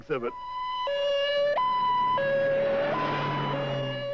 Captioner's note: siren